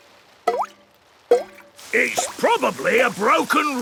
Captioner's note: water dripping